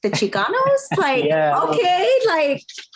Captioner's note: laughs